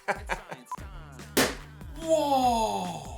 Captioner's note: laughter; beep